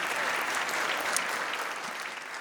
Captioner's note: applause